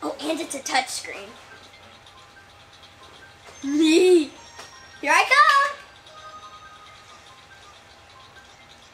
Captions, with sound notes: Oh, and it's a touch screen. (chuckles) Here I come!